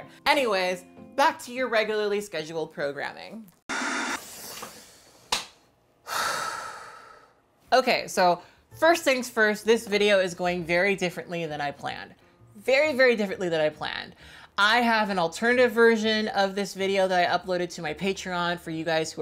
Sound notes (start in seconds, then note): 3.7 static buzzing; 6.0 sighs